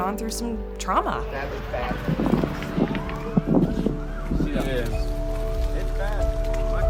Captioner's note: background sirens and chatter